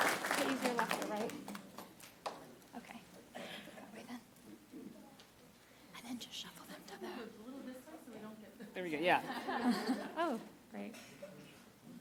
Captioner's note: applause